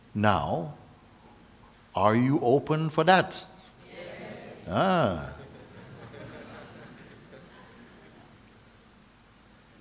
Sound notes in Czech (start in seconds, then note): 5.3 smích